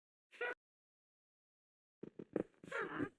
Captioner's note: witch...snorts? "hmph"s